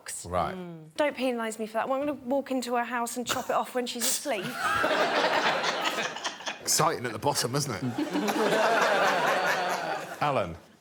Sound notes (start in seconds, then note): 4.5 all laughing; 7.9 all laughing